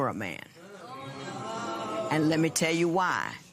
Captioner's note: spectators murmur